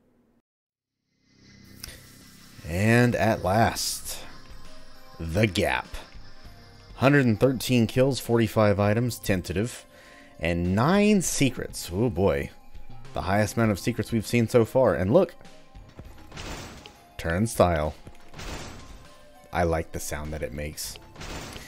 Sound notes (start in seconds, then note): 15.6 turnstile clanking; 17.4 turnstile clanks again